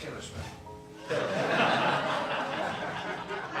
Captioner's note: laughter